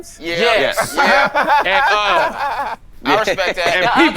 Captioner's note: laughing